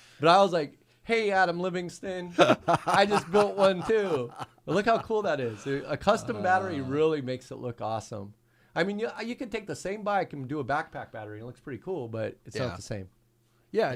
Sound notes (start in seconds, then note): 4.1 laughing